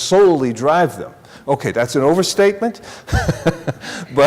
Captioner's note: chuckling